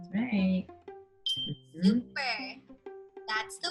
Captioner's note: stars tinkling